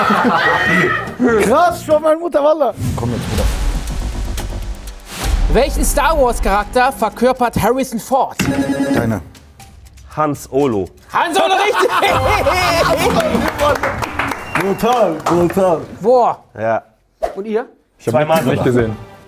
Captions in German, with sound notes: Ha-haaa! Krass, wallah. Komm jetzt, Bruder. (Spannungsvolle Klänge) Deiner. Hans Olo. - Han Solo, richtig! (Lachen, abfallende Klänge, Applaus) Brutal, brutal. Whoa. - Ja. Und ihr? - Nicht gesehen.